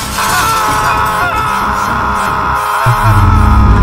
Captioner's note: glass shoots; screaming